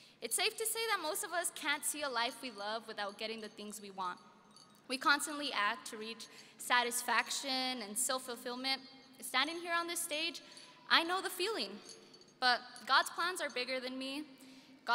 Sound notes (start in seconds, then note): none